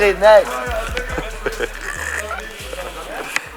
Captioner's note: laughing